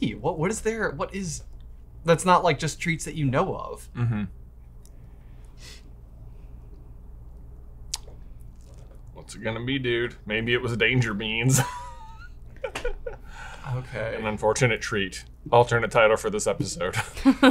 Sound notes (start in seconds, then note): 12.5 laughs